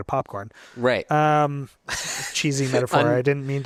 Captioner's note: laughs